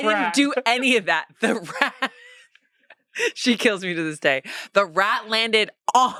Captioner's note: laughs